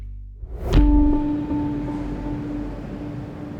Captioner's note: audio stinger